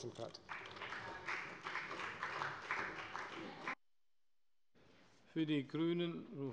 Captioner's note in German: Beifall bei der FDP